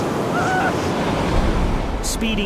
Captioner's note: patient moans